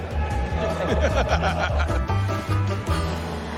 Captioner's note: richard laughs